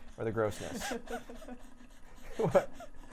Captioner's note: chuckling